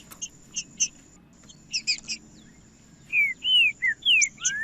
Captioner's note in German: trinca ferro cantando